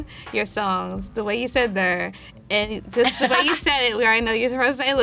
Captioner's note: all laughing